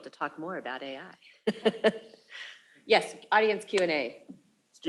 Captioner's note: laughs